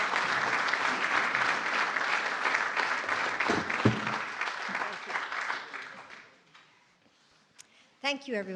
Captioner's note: applause